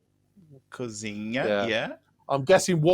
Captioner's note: speaking portuguese